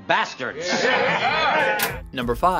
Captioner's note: acclamation